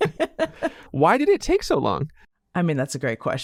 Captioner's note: person laughing